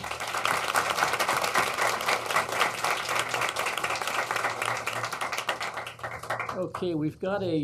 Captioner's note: applause